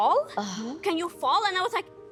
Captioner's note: groaning